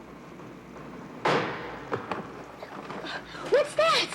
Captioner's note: door bangs nearby